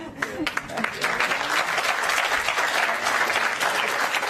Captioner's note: applause